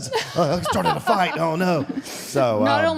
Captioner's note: Michelle laughs